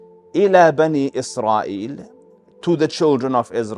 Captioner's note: Arabic